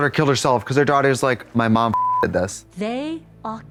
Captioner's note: beep